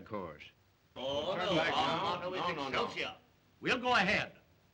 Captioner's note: men argue in disagreement